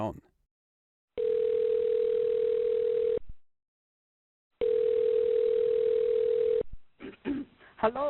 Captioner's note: phone ringing